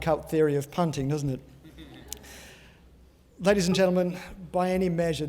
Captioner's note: laugh